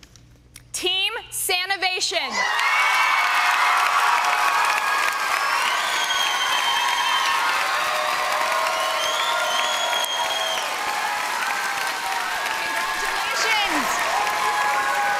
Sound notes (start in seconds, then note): 2.3 cheering and applause